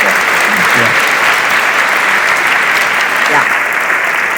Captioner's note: audience applauds